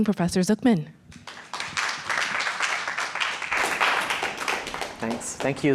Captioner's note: audience applaud